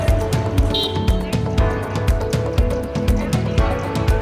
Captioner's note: crowd chattering; horn honking